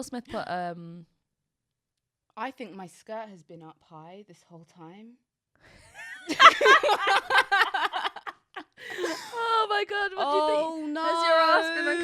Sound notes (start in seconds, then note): 6.2 laughs